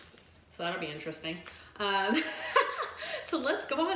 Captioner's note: chuckling